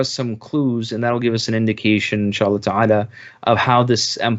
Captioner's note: speaking in Arabic